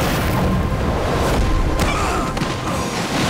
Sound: groaning

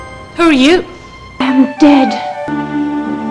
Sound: in old cartoon voice

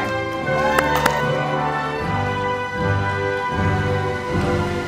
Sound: audience applauding

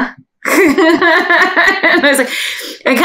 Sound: laughs

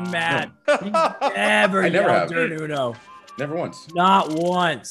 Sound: laugh

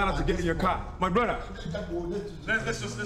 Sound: Baba speaking in Igbo

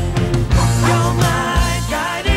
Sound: dog barks

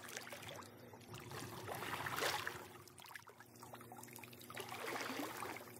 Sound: sounds of gentle water splashes

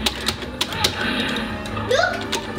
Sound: buttons pounding

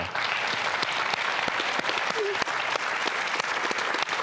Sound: audience applause

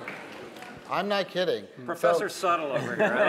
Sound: laughter

